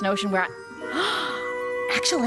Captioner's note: gasp